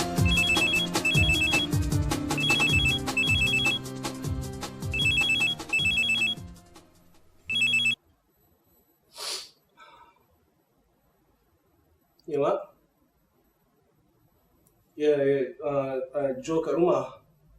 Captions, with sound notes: [phone ringing] [deep inhales] Yeah, Mum? Yeah, I'm at home.